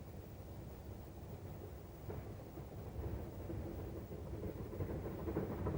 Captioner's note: train passing